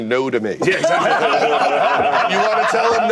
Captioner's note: laughter